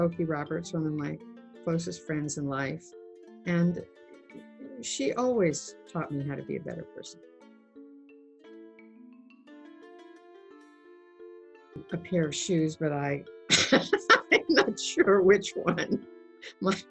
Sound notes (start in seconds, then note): 7.4 peaceful xylophone music; 13.5 laughs